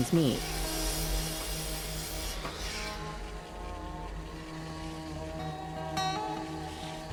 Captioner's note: saw buzzing